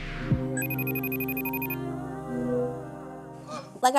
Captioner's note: phone ringing